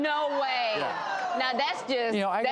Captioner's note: audience gasps